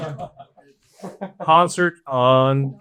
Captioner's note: audience chattering